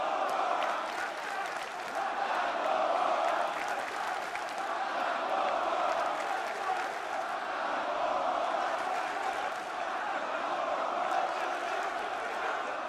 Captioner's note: fans chanting